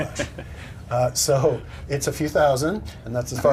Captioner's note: laughter